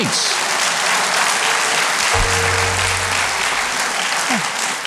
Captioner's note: audience applauds